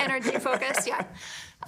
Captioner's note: laughing